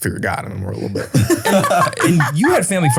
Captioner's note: all laughing